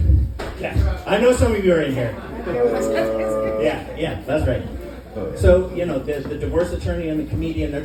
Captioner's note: audience groans